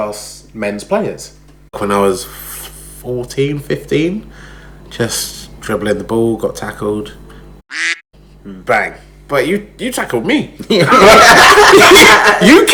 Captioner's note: laughs